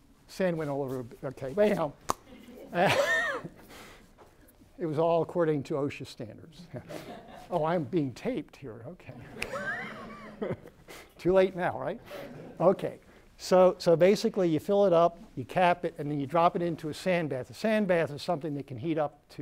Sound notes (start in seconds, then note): 2.0 pop; 2.3 laughter; 9.1 laughter